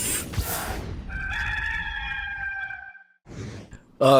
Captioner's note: rooster crowing